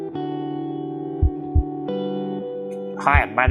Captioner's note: heart beat